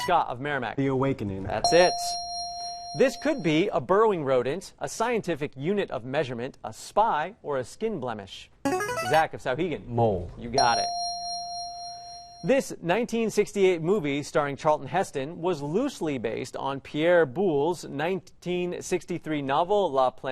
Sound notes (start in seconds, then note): 1.6 ding; 7.9 player buzzer; 10.6 ding